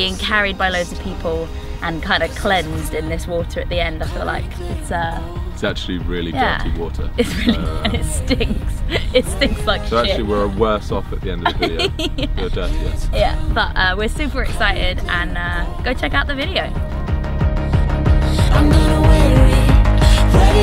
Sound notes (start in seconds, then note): 7.2 laughs; 11.4 laughs